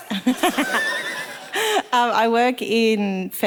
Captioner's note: all laughing